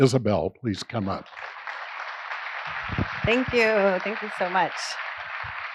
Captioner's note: applause